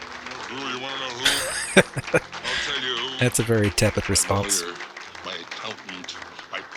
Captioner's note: laughing